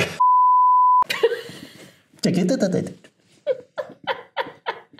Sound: laughing

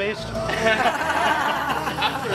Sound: laughs

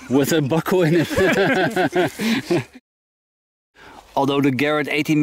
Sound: all laugh

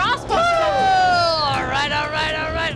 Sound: cheering

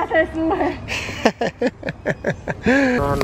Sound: laughs

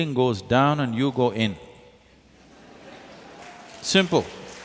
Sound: applause

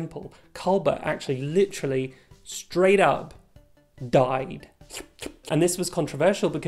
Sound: slur slurp

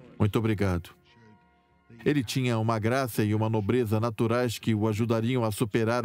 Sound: voiceover

